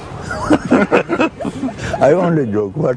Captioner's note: laughter